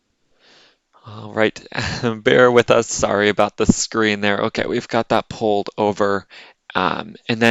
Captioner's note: soft laughter